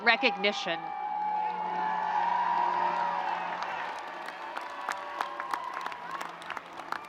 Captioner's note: audience and students cheering and screaming